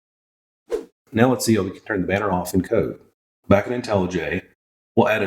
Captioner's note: woosh